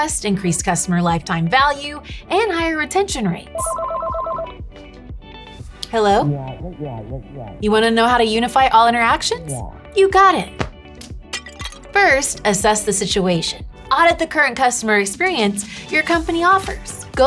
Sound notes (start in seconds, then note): 3.5 phone ringing; 11.3 phone crashes